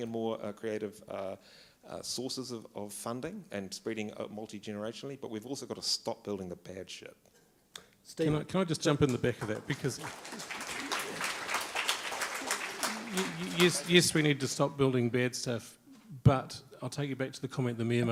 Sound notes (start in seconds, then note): 9.0 applause